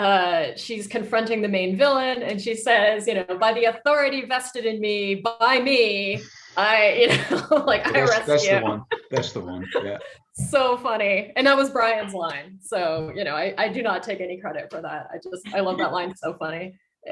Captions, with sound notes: she's confronting the main villain, and she says, "By the authority vested in me by me, (laughs) I arrest you." - That's the one. That's the one, yeah. - So funny. And that was Bryan's line, so I do not take any credit for that. I love that line, it's so funny.